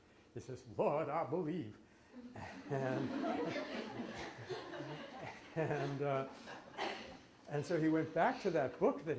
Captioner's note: laughter